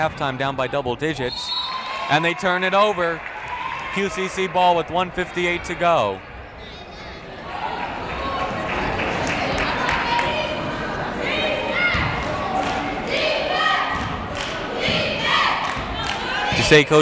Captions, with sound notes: you don't wanna go into half time down by double digits. And they turn it over, QCC ball with 1:58 to go! (cheering) (clapping)